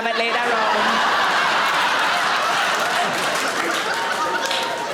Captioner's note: audience laughing